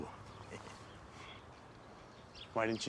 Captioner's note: Abe chuckles